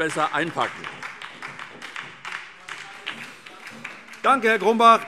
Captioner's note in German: Beifall SPD